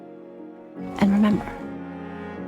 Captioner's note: voiceover